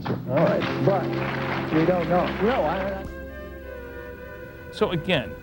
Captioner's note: buzz; audience applause